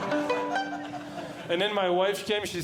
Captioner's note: plucks Strings; audience Laughing